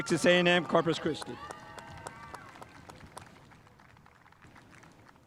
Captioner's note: spectators applauding